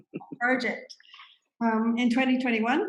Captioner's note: laughs